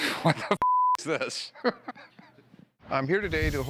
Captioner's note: laughs